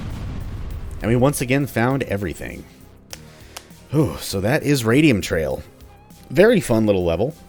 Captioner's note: knuckles crack